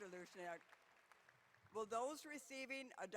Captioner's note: applause